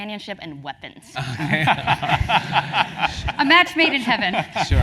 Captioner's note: laugh